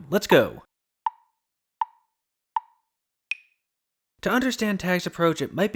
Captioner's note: tick, tick, tick, tick, tock